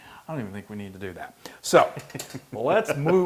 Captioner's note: laugh